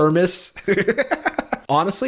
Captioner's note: laughs